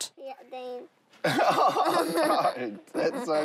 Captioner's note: giggles